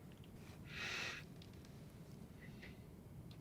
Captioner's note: sniffs